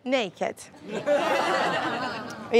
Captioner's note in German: Touristen lachen